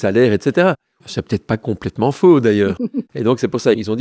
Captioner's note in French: Rires